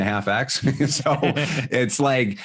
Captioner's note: laughing